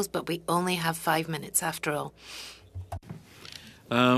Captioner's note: speaking French